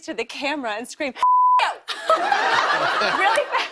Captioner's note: laughter